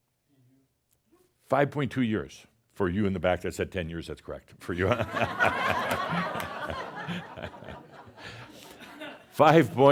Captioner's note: laughter